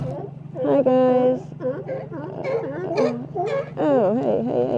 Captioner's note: sea lions barking